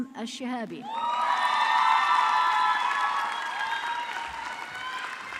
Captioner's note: audience clapping